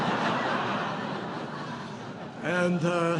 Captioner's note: laughter